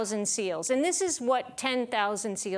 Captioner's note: none